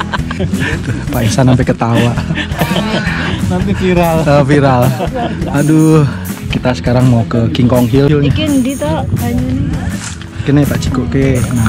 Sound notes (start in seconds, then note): 0.0 laugh; 9.2 in Javanese